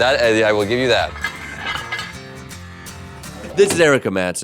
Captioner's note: weights clanging